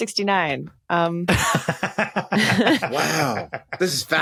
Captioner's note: cackles